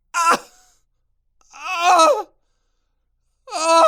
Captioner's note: screaming